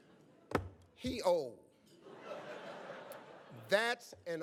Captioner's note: audience laughs